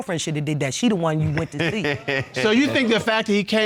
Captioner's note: laughing